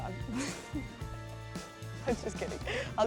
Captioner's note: laughing